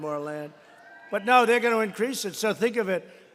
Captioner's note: applause